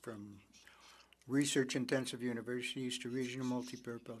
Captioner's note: speaking French